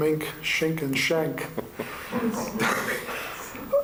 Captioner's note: laughter